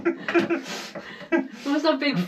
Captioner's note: laughs